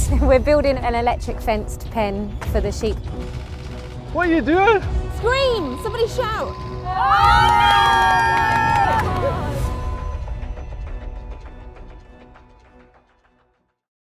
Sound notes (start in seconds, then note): 7.0 shouting; 10.5 upbeat music